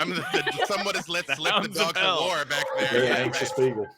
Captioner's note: murmurs